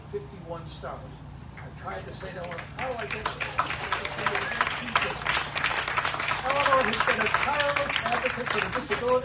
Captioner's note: applause